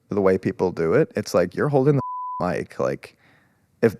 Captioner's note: beep